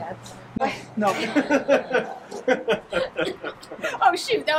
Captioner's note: laughs